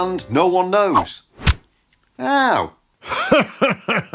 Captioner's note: swipe, thud